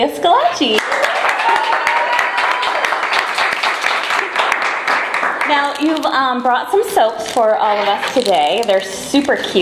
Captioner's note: cheering and applause